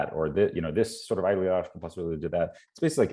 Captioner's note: stutters